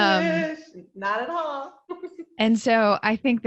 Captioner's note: laughs